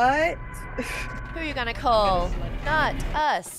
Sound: laugh

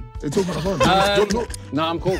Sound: everyone laughing

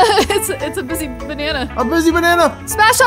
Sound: laughs

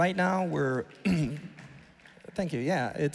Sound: audience applauding

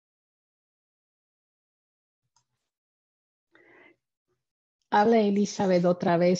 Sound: speaking in spanish

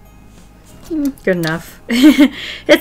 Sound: laughs

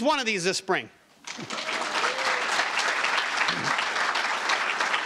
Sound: audience applauding

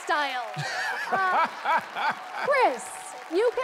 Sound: laughing

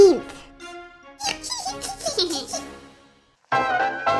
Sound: giggle

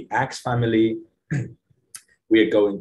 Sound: clears throat

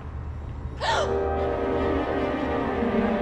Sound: gasps; suspenseful music

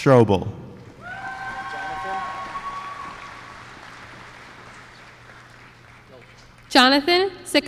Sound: applause

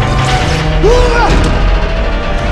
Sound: yells

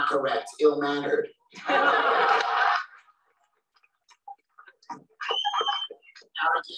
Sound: laughter

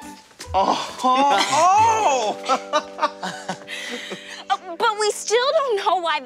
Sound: laughter

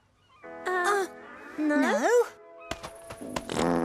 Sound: farting

